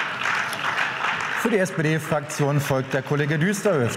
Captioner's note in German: Beifall